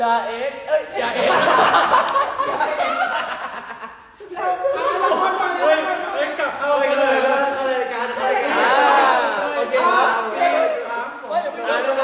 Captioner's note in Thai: เสียงหัวเราะ